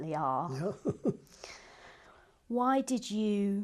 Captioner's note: laughs